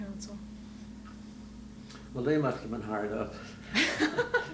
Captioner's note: laughter